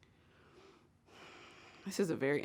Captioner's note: sigh